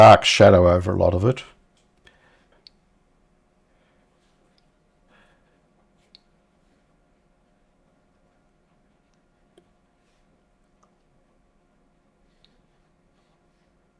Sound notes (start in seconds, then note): 3.2 silence